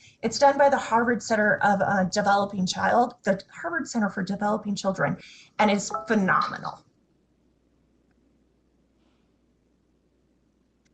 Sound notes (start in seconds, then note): 5.8 notification chimes